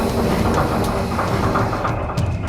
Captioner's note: fast clattering sound; wheels rolling, steam hissing; train chugging